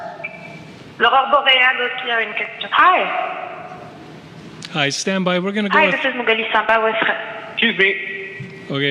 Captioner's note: speaking French